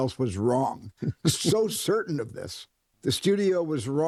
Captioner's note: chuckles